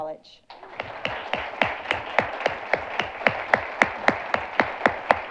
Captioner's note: audience applauding